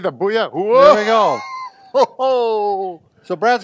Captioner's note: laughs